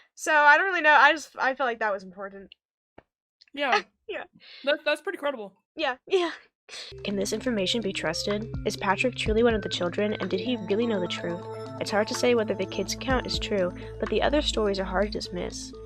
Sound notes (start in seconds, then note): 6.3 laughs